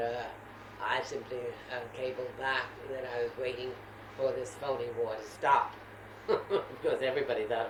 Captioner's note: laughs